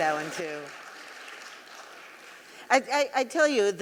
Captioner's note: audience clapping